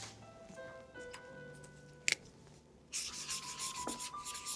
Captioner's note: soft piano music; marker lid snapping; marker scuffing